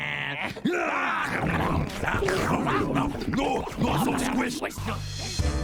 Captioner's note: grunting, chomping, roaring